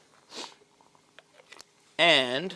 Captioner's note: sniffs